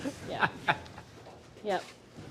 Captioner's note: laughing